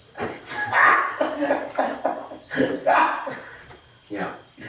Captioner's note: all laughing